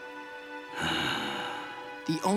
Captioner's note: sighing